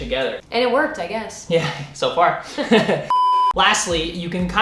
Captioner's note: laughs